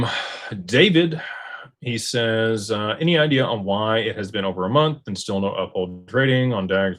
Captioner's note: sighs and gasps